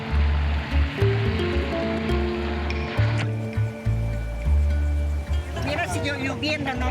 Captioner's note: engine rumbling; gentle music; speaking in foreign language